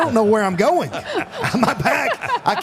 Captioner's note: Michelle and Mark laughs